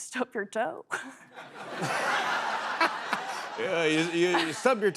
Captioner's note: laughter